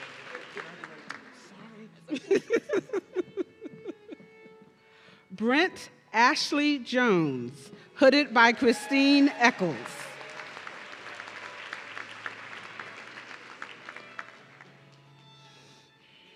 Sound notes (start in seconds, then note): 2.1 laughing; 8.5 audience cheering